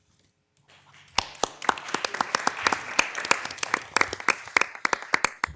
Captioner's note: attendees applauding